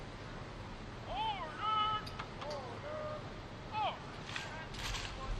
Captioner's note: military commands off mic